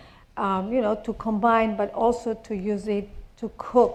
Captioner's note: none